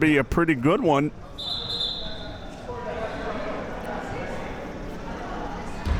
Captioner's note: whistle being blown